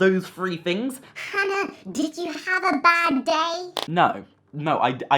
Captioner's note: high pitched voice